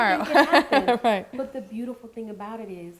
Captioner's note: laughing